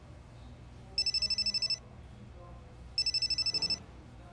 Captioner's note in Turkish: Telefon çalıyor